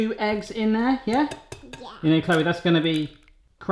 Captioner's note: tapping